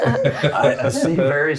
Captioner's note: laughing